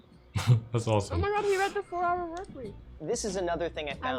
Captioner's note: Poki mumbles